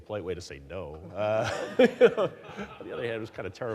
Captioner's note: audience laughing